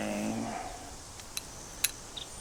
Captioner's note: horse snorts